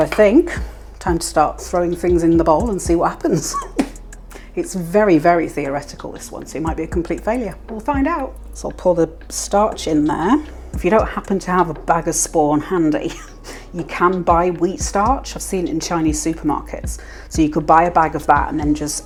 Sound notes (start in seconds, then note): 13.4 laugh